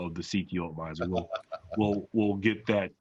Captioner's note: laughs